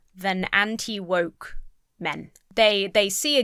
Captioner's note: none